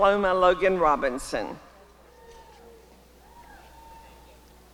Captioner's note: applause and cheering